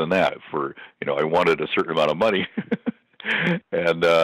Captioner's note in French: Rire